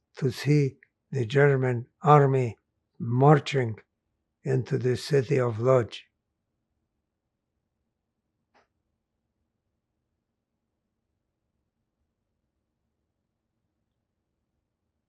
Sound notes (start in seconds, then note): 6.2 pauses 11 seconds